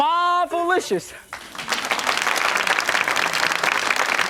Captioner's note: clapping